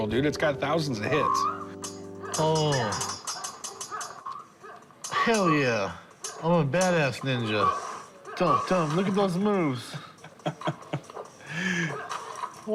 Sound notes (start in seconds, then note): 2.7 ninjas grunting; 9.9 chuckles